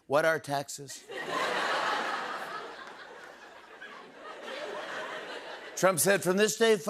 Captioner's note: laughter